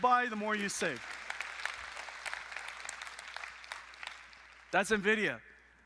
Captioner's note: applause